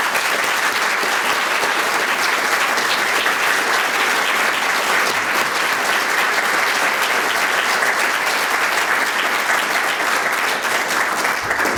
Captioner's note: applause